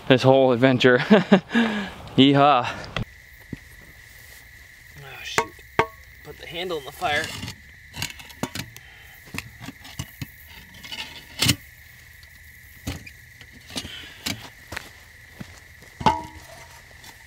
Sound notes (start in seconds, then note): 0.8 laughing; 3.9 crickets chirping